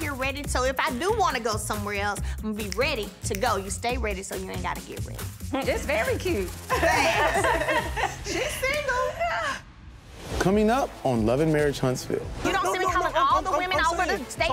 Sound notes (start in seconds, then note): 6.6 all laugh